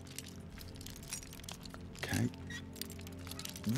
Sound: whisper

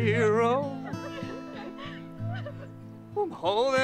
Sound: crying

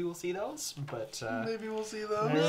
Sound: mockingly

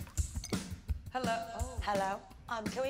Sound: echoing

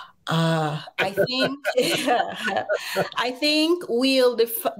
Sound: both laugh

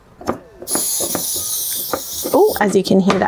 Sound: hissing sound

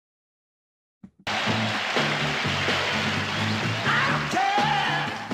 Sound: audience applauding

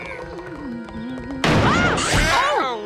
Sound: screaming

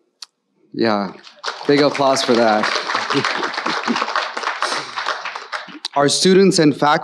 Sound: audience applauding

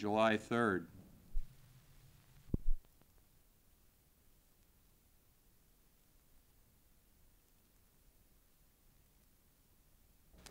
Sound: silence

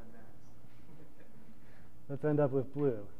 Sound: laughter

